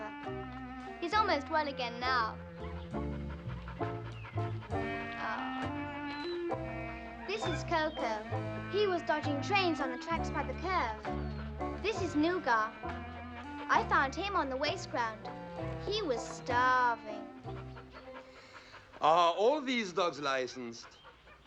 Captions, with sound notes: He's almost well again now. [whining, panting] - Aww. - [whining] This is Koko. He was dodging trains on the tracks by the curve. This is Nougat, I found him on the waste ground. He was starving. Are all these dogs licensed?